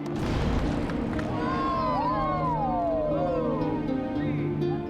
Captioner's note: explosion